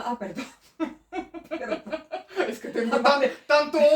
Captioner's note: laughs